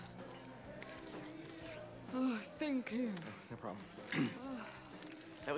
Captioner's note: clears Throat